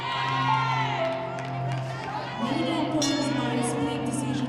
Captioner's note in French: acclamations du public